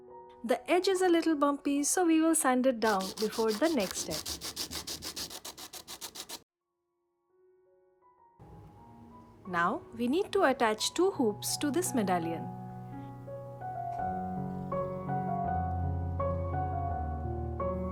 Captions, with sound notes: The edge is a little bumpy so we will sand it down before the next step. [ coarse rasp of sandpaper ] Now, we need to attach two hoops to this medallion. [ soft music ]